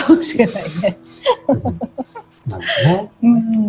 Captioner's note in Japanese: 笑い